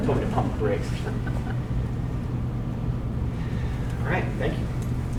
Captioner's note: audience laughing